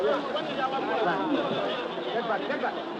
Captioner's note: chattering